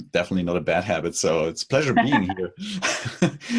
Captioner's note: host laughs